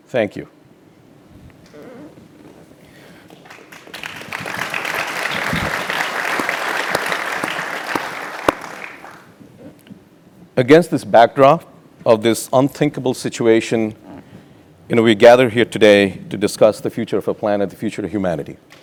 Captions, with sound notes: Thank you. >> [APPLAUSE] >> Against this backdrop of this unthinkable situation, we gathered here today to discuss the future of the planet, the future of humanity.